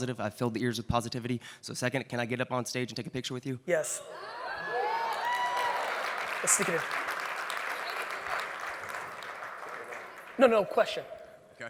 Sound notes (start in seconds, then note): 4.5 audience cheers and claps; 7.3 audience applauds